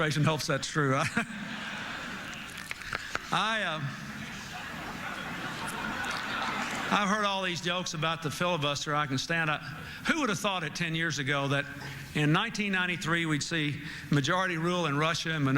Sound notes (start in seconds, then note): 0.0 laughter; 4.2 laughter